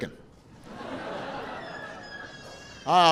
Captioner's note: laughter; baby cries